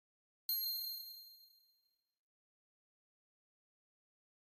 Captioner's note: bell ringing